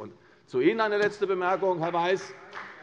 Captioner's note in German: Beifall bei der CDU und der FDP